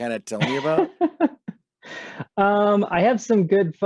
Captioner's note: chuckles